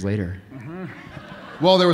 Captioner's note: audience laughing